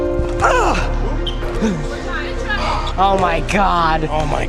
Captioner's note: grunting